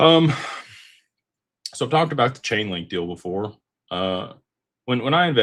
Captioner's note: sighs